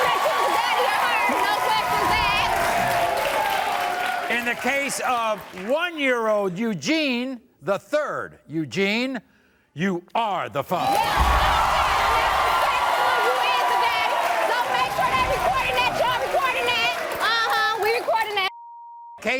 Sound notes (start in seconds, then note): 0.0 yelling; 10.7 crowd cheering